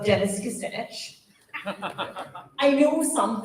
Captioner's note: laughter